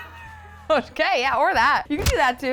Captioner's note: laughs